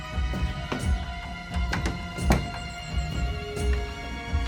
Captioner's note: birds chirping; door thuds softly